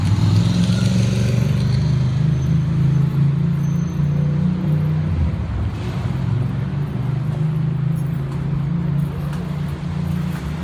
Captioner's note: truck Engine Noise